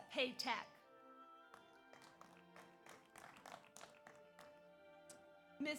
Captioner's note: audience applauds